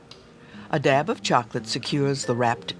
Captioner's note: voiceover